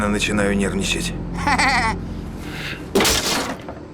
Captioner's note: laugh